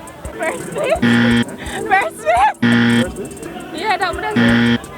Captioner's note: laughs